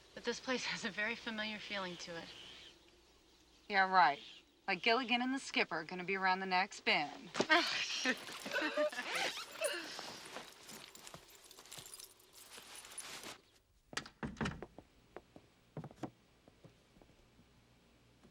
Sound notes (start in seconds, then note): 7.4 ladies laughing